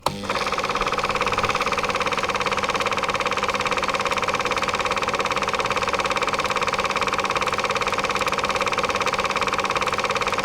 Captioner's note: projector Whirring